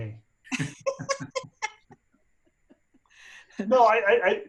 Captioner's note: laughing